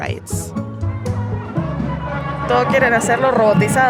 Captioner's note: Spanish